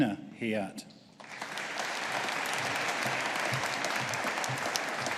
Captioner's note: audience applauding